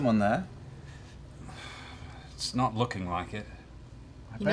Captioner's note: sighs